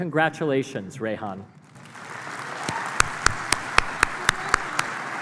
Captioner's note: applause